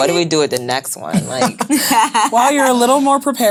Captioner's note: laughing